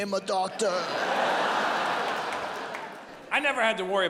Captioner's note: audience laughs